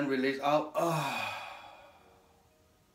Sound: exhales

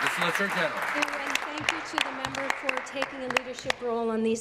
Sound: applause

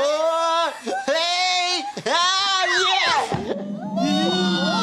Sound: all shout; chuckles; all cheer

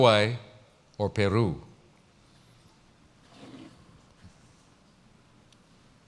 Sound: pause

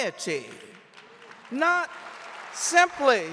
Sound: audience applauding

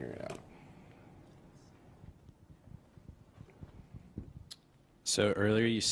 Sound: pause

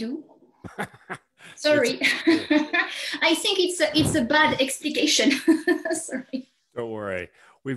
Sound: laughs

